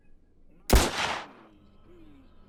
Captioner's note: gun bangs